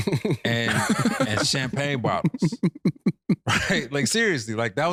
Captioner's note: laughing